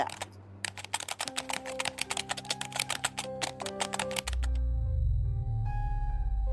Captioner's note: tense music; keys typing